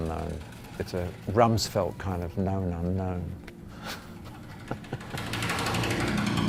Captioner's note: laughs